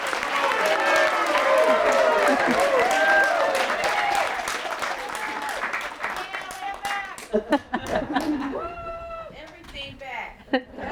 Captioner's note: applause; cheers